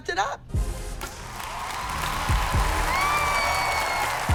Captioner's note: applause